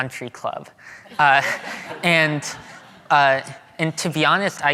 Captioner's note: audience laughing